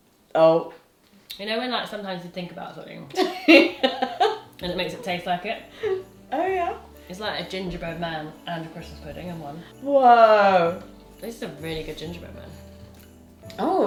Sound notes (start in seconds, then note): 3.1 laughs